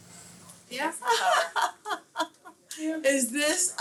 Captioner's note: laughing